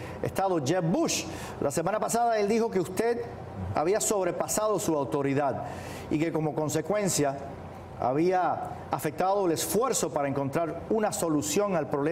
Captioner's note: speaking spanish